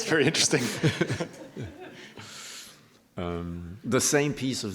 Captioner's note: laughter